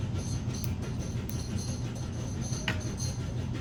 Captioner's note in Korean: 건조기 돌아가는 소리